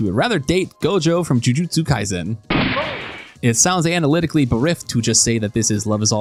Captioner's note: gunshot